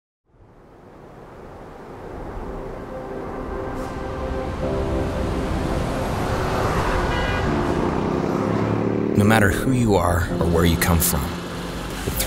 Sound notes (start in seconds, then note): 4.5 cars driving and light music playing; 9.2 voiceover